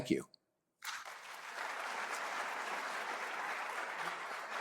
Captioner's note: applause